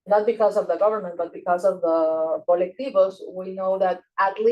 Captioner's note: speaking Spanish